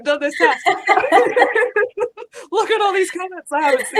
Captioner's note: laughing